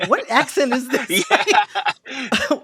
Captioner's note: laughter